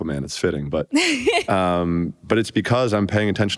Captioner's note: laughter